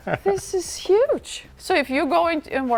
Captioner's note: laughing